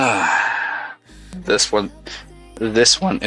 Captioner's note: sighs